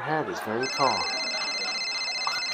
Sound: phone rings

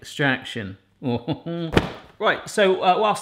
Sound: chuckles

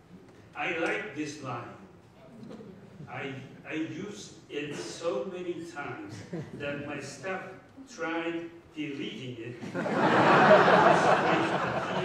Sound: laughter

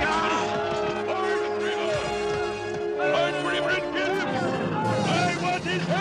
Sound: hitting; yelling

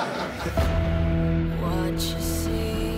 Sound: laughter

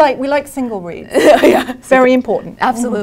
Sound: laugh

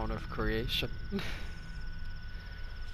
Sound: laughs

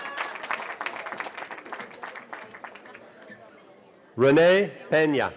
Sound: cheering

